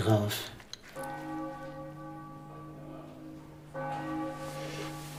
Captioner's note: church bells ring